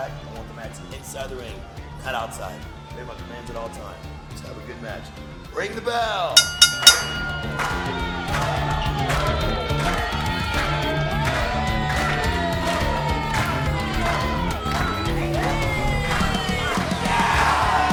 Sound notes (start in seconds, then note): 6.4 bell rings three times; 7.5 Crowd is clapping with Mariposa; 17.4 crowd cheering and booing